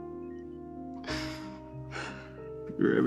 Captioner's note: deep heartfelt breath